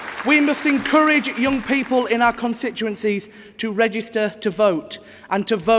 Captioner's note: applause